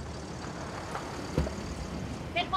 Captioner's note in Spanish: Sonido del motor